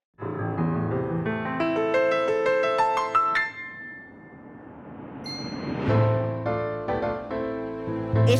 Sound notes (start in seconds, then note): 5.2 twinkle; 5.9 lyrical piano